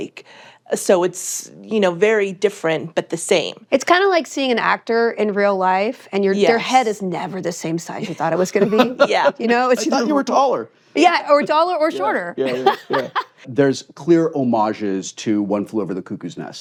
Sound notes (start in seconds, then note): 8.4 wil laughs; 12.4 laughs